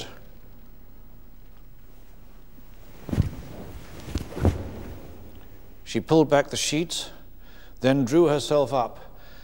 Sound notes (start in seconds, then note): 3.0 sound of the covers been pulled back